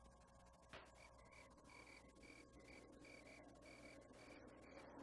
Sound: crickets chirping

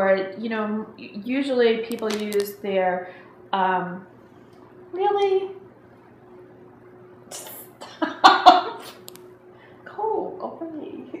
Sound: laughing

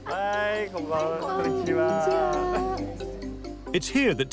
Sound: foreign language

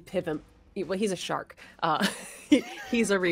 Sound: laughs

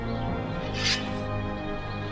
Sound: sword unsheathed

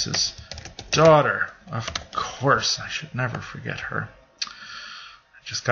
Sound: typing

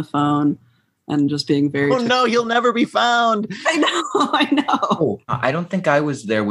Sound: laughter

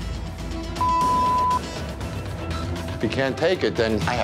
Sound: beep

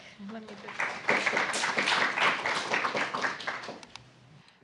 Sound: applause

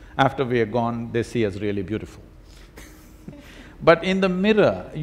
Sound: both laugh

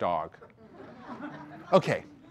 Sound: audience laughter

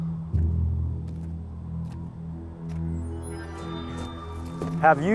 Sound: footsteps tapping

